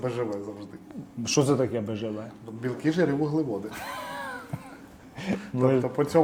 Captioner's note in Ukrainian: сміх